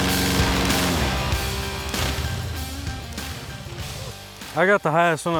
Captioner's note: airboat motor stops